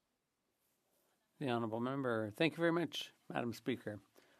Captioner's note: speaking French